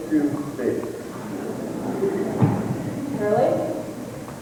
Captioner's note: surprised chatter